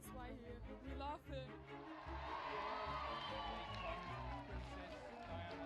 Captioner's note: crowd cheering